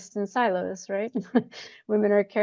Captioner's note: chuckles